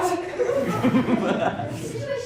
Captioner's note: evil cackle from audience